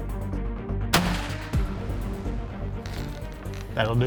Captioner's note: gunshot